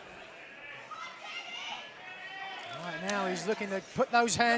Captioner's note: crowd chatter